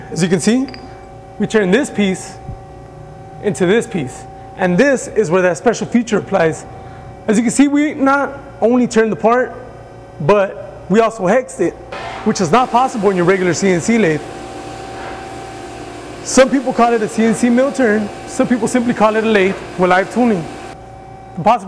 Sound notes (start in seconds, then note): 12.1 machine whirring